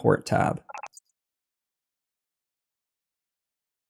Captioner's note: beep